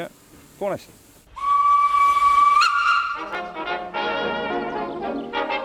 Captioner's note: whistle